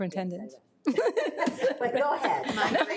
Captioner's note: trustees laughing